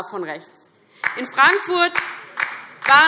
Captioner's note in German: Beifall DIE LINKE